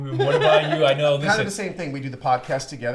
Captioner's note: laughs